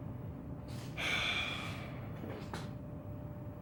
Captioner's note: Reverie sighs